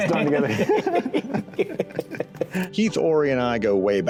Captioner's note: laughing